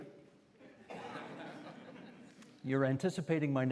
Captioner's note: audience chuckling